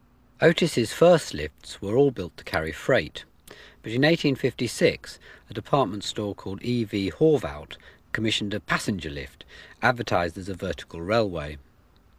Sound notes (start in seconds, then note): none